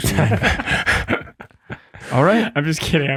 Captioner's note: group laughs